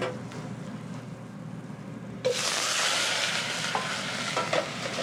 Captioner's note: sizzling